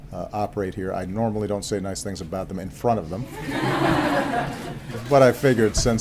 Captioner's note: laughter